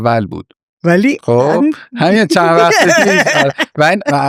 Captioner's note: laughs